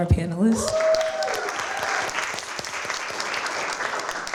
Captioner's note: applause